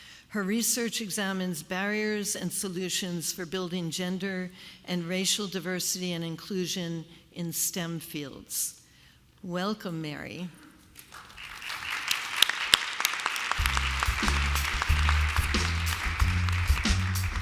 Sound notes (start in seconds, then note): 11.0 applause